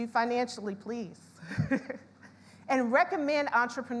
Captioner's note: laughs